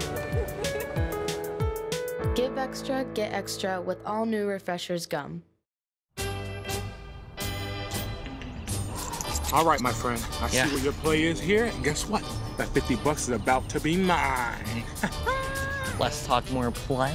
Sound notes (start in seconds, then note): 5.8 upbeat music; 14.7 laughs